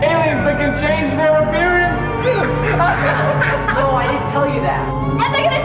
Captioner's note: laughs